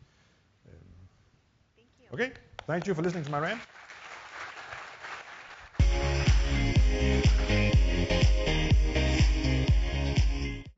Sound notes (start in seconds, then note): 2.6 audience applauds; 5.8 upbeat music